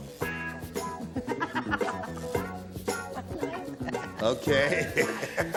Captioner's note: laughs